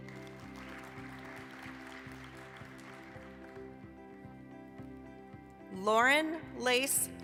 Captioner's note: applause